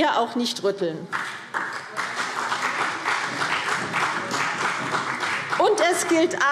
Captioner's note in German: Beifall CDU und BÜNDNIS 90/DIE GRÜNEN